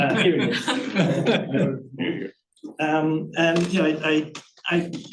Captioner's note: audience chuckling